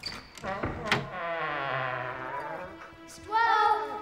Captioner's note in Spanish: puerta crujiendo